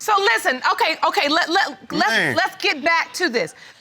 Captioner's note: stammers